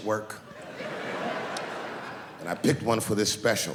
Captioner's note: laughing